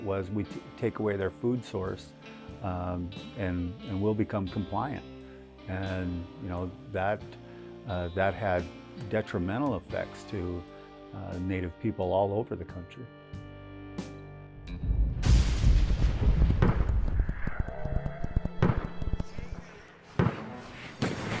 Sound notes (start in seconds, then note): 14.8 thunder booming; 17.7 tense percussive music